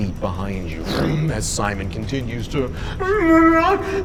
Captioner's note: motor rumbling; moaning